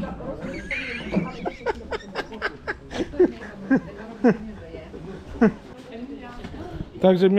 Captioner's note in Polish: śmiech